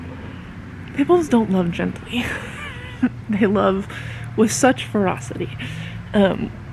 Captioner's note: laughing